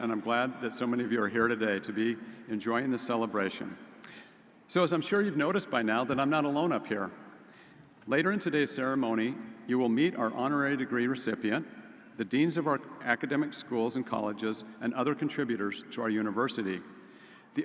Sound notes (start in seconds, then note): none